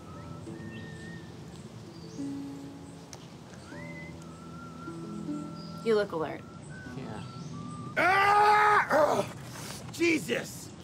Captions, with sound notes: - You look alert. - Yeah? [shouting] Jesus!